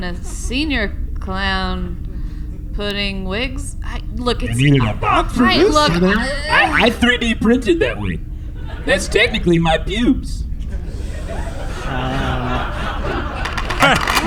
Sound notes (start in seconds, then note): 7.1 "eugh" sound